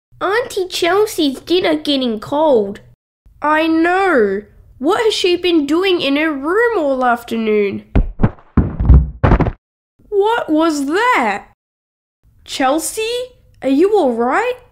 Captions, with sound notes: Auntie Chelsea's dinner getting cold I know What has she been doing in her room all afternoon? (Tap! Tap! Thud! Crunch!) What was that!? Chelsea? Are you alright?